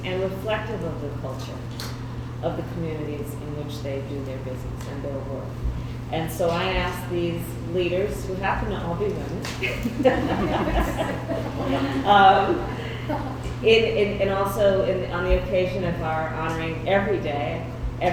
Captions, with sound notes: And reflective of the culture of the communities in which they do their business and their work. And so I asked these leaders who happen to all be women (laughter) and also on the occasion of our honoring every day,